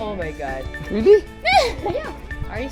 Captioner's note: laughs